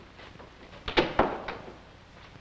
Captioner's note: door shuts